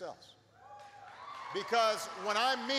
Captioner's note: applause